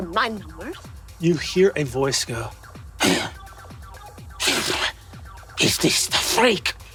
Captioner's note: gasps and sputters